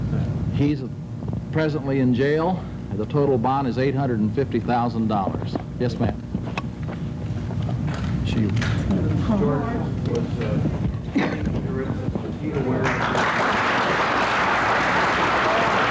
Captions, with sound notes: - He's presently in jail. The total bond is $850,000 dollars. Yes, ma'am? (people chattering) (audience clapping)